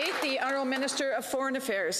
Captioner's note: some Applause